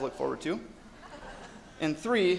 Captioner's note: audience laughs